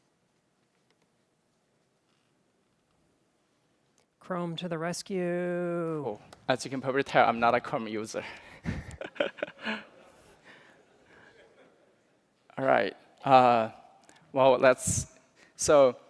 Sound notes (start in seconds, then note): 8.6 laughter